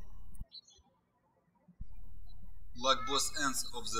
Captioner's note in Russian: птички щебечут